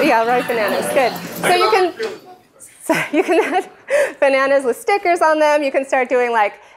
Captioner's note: laughter